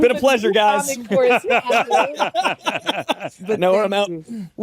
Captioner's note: laughter